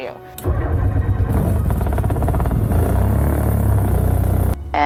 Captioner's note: plane engine whirring